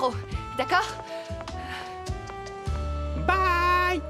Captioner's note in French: soupirs; d'une voix aiguë